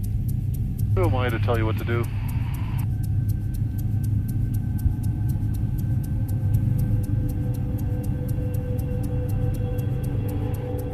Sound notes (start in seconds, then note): 4.2 aircraft engine noise, rising music